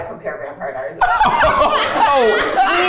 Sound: crew laughing

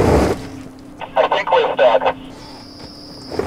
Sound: radio voice

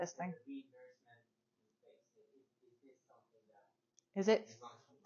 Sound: student speaks faintly

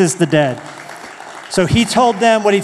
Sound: applause

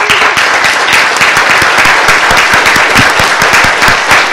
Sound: audience applauding

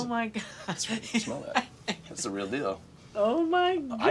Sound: laughing

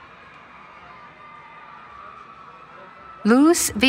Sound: cheering

